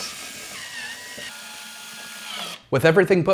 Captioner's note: drill buzzing